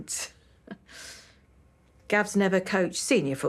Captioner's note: she chuckles, inhales